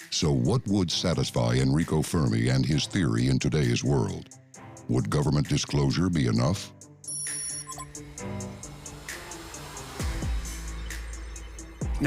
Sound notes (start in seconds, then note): 7.0 digital beeping; 8.0 somber percussion music